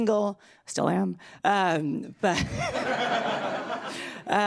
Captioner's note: laughs loudly